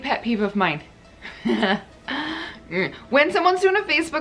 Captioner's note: laughs